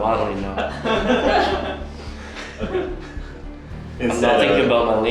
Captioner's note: laughing